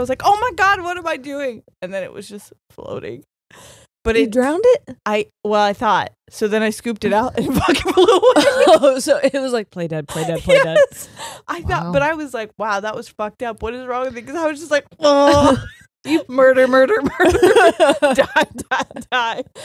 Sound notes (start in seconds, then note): 7.6 both laughing; 10.1 laughs; 15.1 groans; 17.0 both laughing